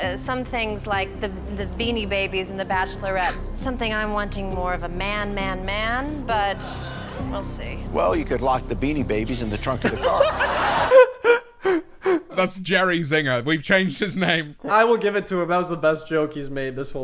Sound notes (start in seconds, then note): 9.5 laughs